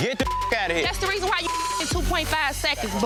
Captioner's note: beep